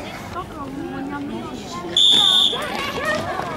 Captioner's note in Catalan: Xiulet